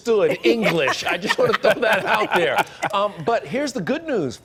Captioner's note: laughter